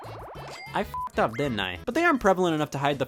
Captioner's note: beeps